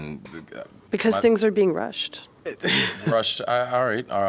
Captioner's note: laughter